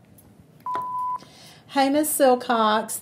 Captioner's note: beeps